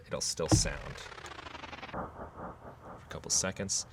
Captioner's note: electronic whirring